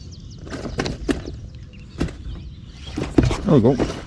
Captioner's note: reel clanging